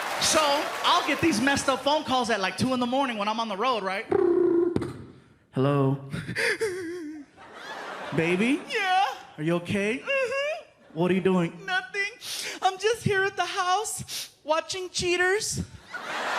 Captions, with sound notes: So I'll get these messed-up phone calls at, like, 2:00 in the morning when I'm the road, right. [mimics phone ringing] "Hello." "Baby?" "Yeah?" "Are you okay?" "Mm-hmm." "What are you doing?" "Nothing. "I'm just here at the house, watching Cheaters.